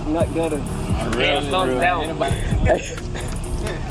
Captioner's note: chattering; laughing